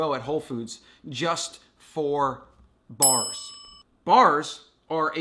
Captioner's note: chime